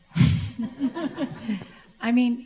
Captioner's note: audience laughs